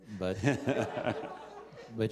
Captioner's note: laughter